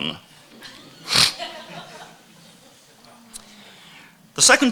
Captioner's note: audience laughing